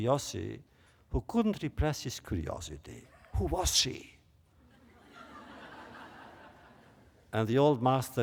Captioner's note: laughter